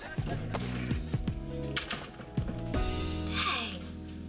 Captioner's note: door closes